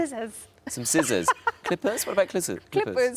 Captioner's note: laughs